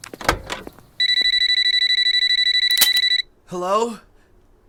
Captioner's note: door opening